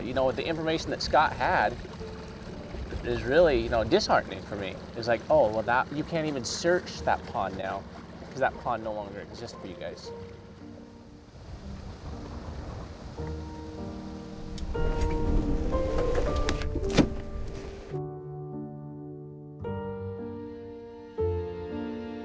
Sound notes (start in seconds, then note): 10.0 soft wind breeze; 15.3 whirring boat; 17.8 melancholic music